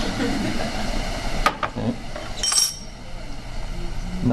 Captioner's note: students laugh